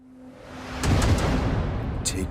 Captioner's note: explosion